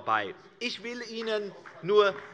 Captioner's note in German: Beifall bei der CDU und dem BÜNDNIS 90/DIE GRÜNEN